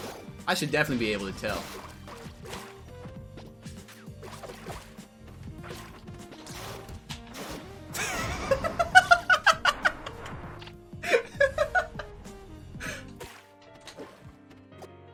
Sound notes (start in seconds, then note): 8.6 laughing